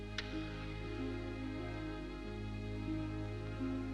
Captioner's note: match strikes